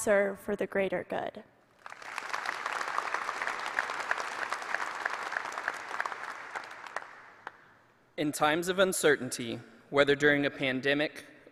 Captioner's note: applause